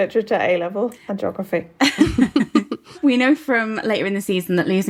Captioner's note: both laughing